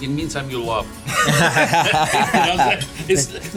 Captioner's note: all laughing